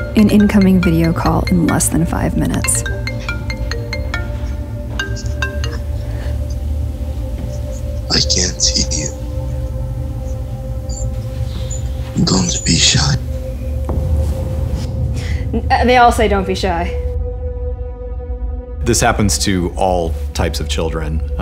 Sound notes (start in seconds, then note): 2.9 phone ringing; 5.9 soft Music